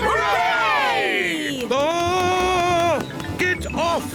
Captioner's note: screams